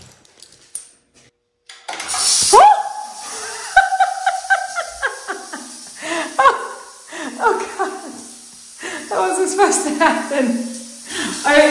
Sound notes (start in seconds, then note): 2.5 yelping; 3.2 laughing